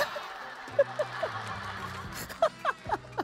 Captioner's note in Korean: 푸핫